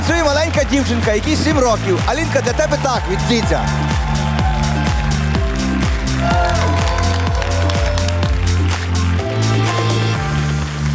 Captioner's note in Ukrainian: оплески